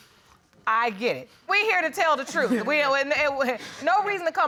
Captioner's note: stammers